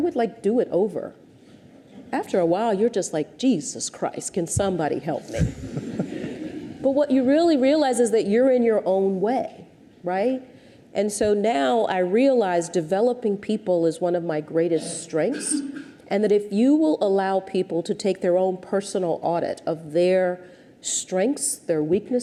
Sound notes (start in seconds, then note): 5.3 audience chuckles